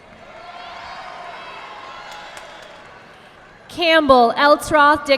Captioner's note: audience clapping